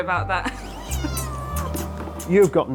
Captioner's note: cat mewing